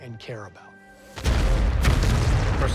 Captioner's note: artillery blasting